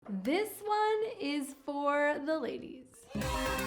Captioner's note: crowd cheers excitedly